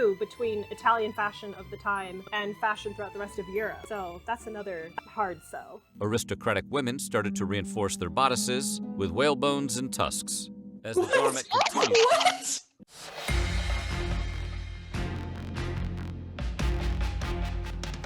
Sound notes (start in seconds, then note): 12.7 all gasp and laugh; 15.1 intense music